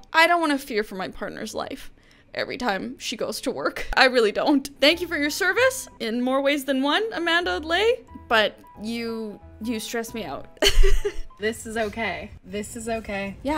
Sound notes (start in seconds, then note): 10.6 laughs